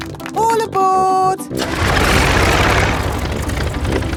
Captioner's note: plane engine starts